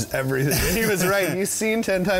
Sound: laughs

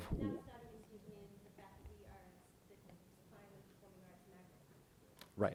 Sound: board member faintly speaking

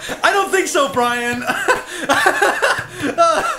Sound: laughing; laughing

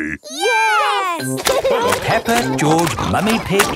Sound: laughing

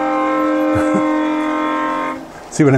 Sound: loud horn blows; laughs

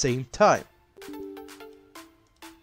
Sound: Windows 11 UAC Sound

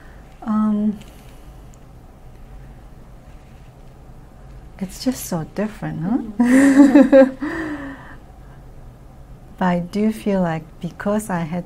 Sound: laughs

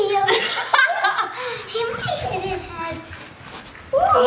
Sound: laughing

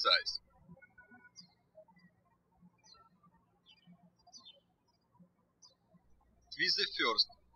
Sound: birds chirping

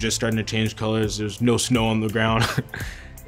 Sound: laughs

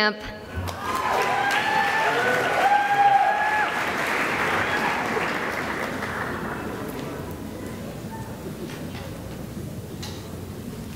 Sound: cheering and applause

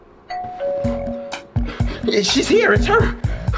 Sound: doorbell ringing

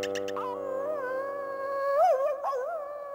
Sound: howling

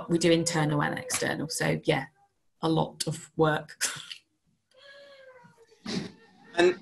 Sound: chuckles

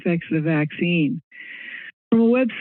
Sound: inhales

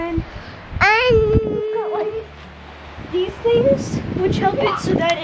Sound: child yells

